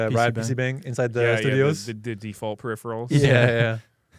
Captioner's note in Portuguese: risos